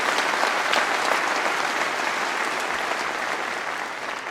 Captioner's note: applause